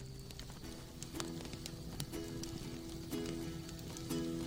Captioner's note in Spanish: Chisporroteos